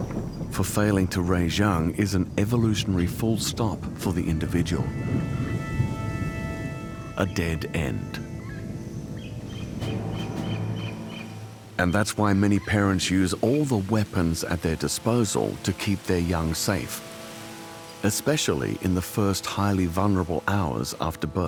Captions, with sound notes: For failing to raise young is an evolutionary full stop for the individual. A dead end. -[birds chirping] -[dramatic music playing] And that’s why many parents use all the weapons at their disposal to keep their young safe. Especially in the first, highly vulnerable hours after birth.